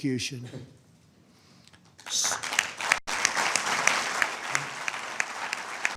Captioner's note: applause